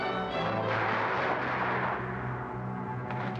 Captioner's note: guns firing